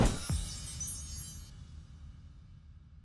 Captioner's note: whooshing and chiming